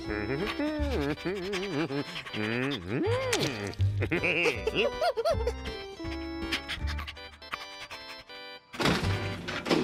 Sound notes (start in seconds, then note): 4.5 chuckles